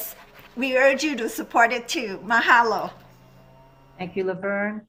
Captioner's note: speaks in a foreign language